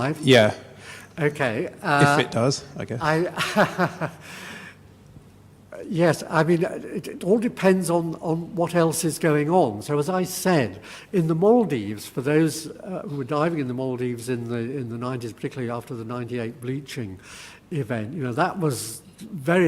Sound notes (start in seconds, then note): 3.1 laugh